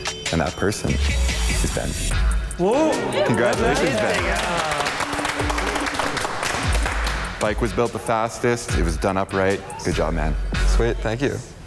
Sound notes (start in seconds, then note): 3.1 contestants applause